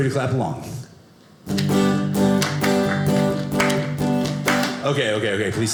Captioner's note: audience clapping